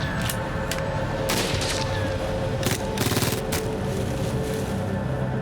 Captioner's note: gunfire